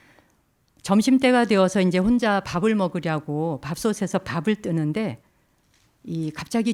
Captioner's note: speaking in Korean